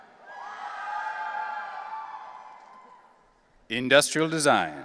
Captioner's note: audience cheering